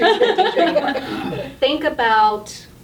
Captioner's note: all laughing